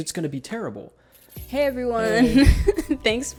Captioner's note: laughs